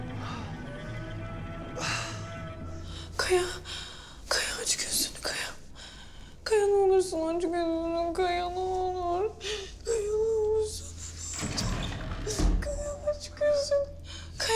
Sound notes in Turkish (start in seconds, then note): 8.9 Ağlıyor; 10.9 Ağlıyor; 11.2 Kapı açılma sesi